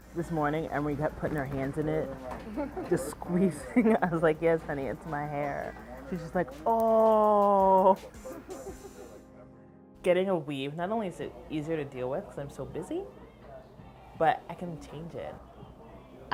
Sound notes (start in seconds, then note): 2.3 laughs